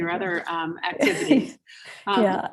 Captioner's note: chuckles